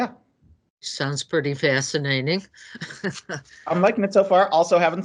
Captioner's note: laughs